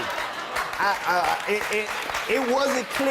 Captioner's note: audience applauding